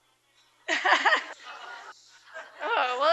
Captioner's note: laughter